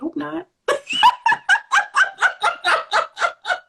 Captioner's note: laughter